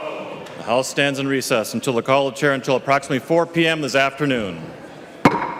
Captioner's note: chorus of ayes